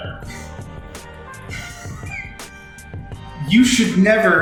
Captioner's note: laughs